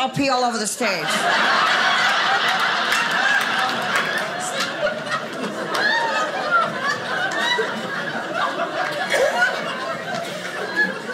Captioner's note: audience laughing